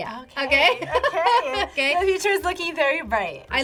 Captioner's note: laughs